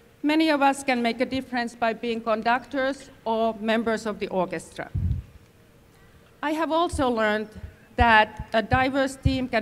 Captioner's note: none